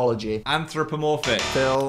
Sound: buzzer buzzes

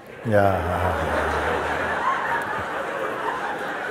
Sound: laughter

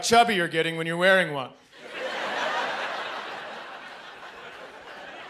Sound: audience laughing

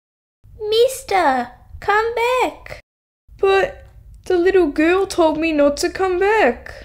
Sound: none

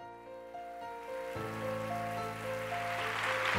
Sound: applause

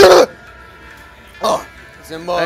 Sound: ugh

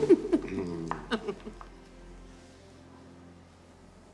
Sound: both laughing

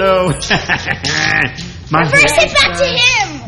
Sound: laughs

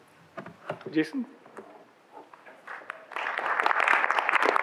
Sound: audience applauds

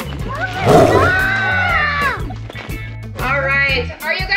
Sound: tiger growling sound effect

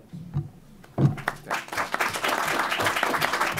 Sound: applause

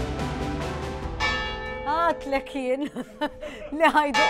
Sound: bells chiming; laughs

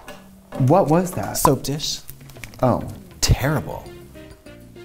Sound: none

